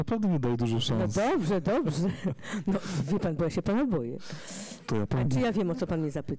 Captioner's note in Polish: śmiech